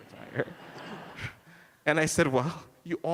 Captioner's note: laughing